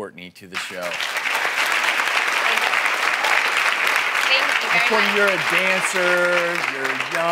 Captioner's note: applause